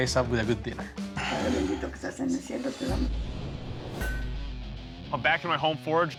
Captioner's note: speaking spanish